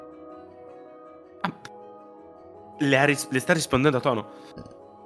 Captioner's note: gasp